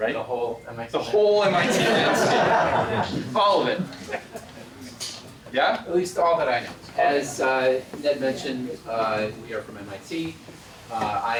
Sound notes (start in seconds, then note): 1.4 laugh